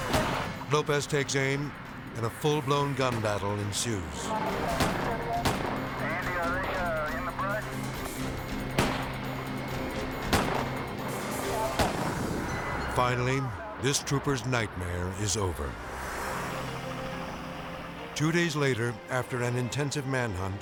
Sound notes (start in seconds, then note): 0.0 dramatic music continues; 0.0 guns firing; 4.5 guns firing; 8.6 guns firing